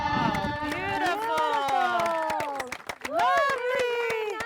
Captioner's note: all applauding